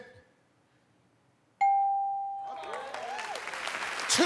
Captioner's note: ding